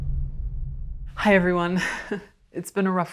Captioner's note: chuckles